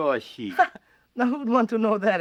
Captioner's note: man laughing